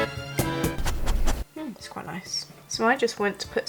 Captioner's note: dog sniff noises